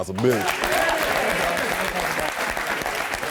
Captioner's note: applause